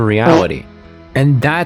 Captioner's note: fart sound